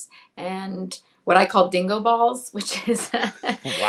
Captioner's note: laughs